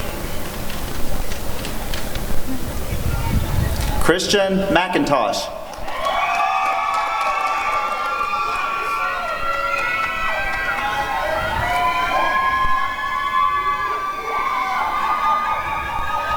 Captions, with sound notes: Christian McIntosh [applause and cheering]